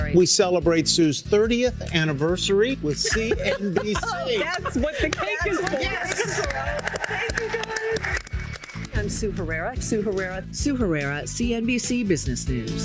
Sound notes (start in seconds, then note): 2.9 laughter; 7.5 applause